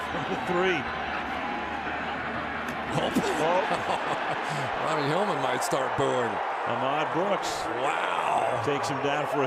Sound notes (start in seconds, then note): 0.1 chuckles; 3.0 laughs